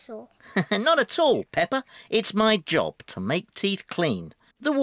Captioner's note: laughs